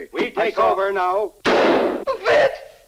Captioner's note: gun fires